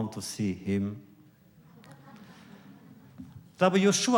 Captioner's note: laughter